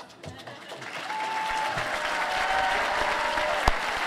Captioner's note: applause